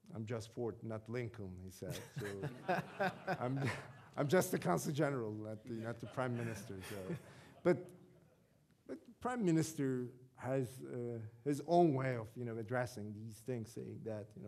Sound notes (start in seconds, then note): 2.0 audience laughing